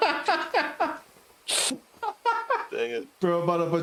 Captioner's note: laughing